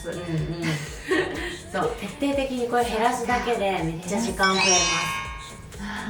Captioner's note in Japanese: 笑い